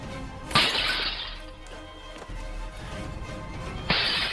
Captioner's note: hands thuds; knife thuds; bottle shatters; glass shatters